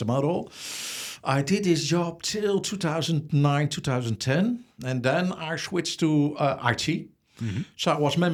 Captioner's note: inhales